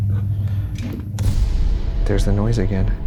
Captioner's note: object thumps